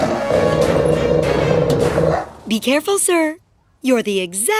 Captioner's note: growling